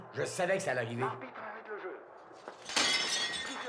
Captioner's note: radio